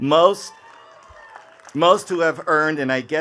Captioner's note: attendees cheering and clapping